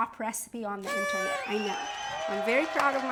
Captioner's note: audience cheers